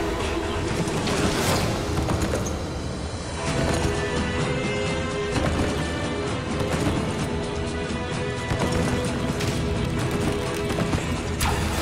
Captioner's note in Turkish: Nal sesleri